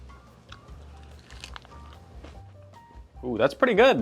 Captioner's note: chewing